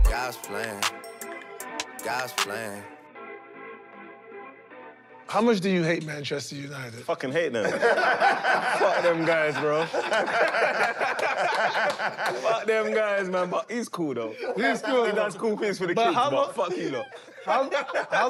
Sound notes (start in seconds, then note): 7.6 laughter; 10.6 laughter continues